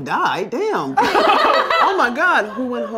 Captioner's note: laughter